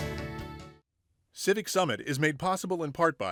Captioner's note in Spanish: Voz en off